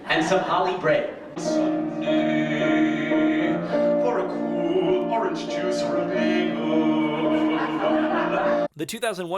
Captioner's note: laughing